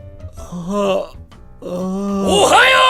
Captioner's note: yawn